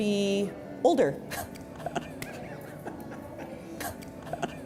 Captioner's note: laughing